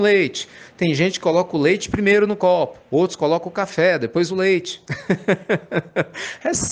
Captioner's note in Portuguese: risadas